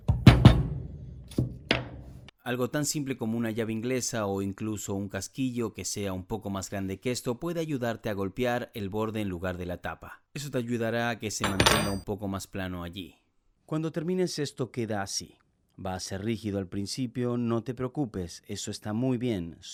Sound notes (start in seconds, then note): 0.0 Se oye el martillo